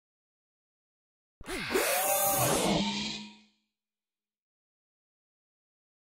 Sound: sound of robot movement

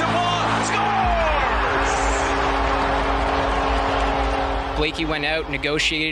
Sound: crowd cheering

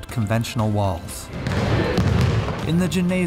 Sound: basketballs bouncing on floor

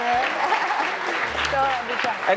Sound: cheers and applause

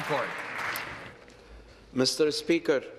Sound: applause

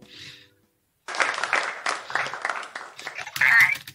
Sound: applause

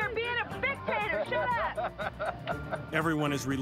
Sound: laughs

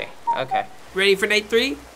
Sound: cuckooing

